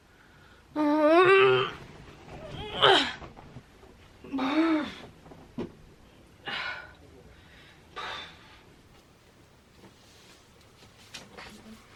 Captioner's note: groans